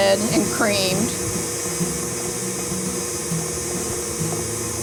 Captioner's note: blender whirling